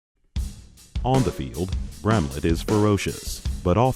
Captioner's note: voiceover